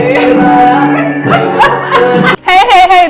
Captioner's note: laughs